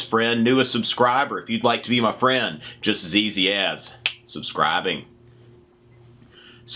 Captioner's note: snaps